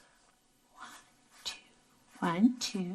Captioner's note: whispering